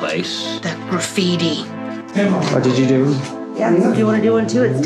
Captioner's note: in anger